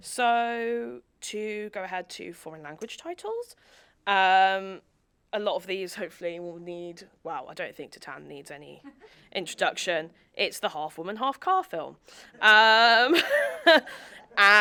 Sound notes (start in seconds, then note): 12.9 laughs; 14.3 audience laughing